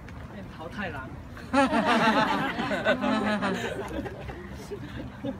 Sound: group laughing

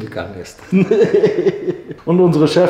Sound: laughter

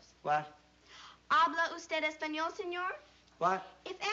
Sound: non-english

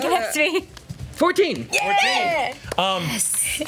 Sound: cheers

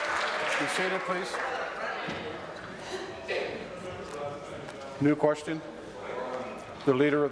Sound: applause

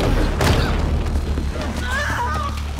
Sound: screaming

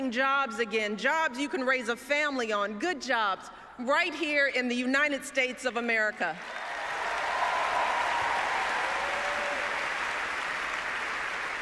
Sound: applause

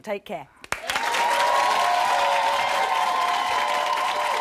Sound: applause

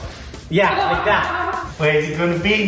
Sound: giggles

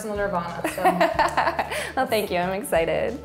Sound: laughter

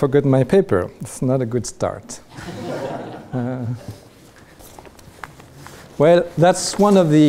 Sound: audience laughs

